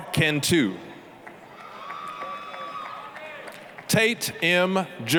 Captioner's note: applause, cheering